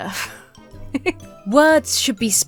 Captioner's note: laughs